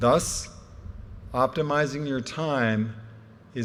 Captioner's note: none